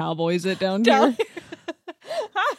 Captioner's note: laughs